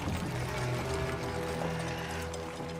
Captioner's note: horse whinnying